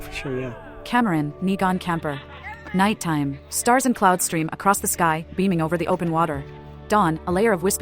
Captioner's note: jovial camp sounds